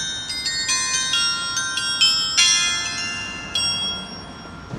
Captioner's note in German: glocke